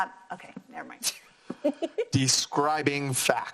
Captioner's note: laugh